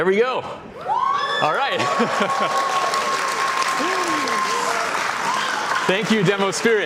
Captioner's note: audience cheering and applauding